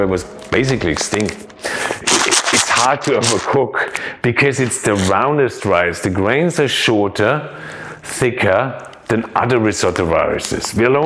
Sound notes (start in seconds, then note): 2.0 rice shakes